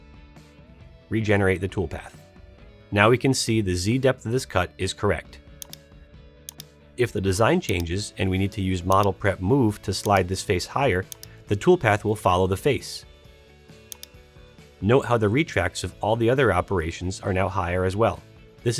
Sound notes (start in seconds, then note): 5.9 keyboard clicks